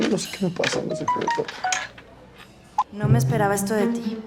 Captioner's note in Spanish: Aviso de mensaje